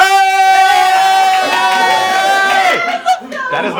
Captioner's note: red team cheering